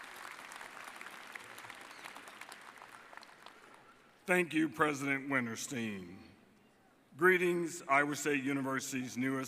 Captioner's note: applause